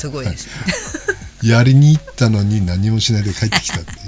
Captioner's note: laughs